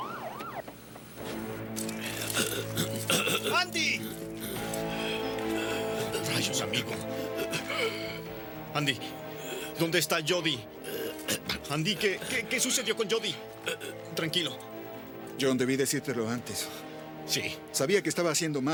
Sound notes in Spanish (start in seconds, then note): 1.8 Rádio da polícia tagarelando